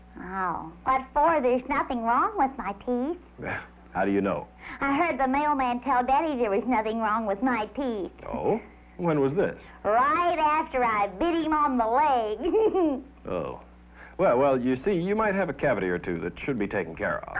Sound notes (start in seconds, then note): 3.4 laugh; 12.3 giggle